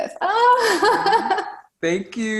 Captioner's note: laughs